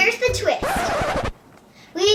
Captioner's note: record scratching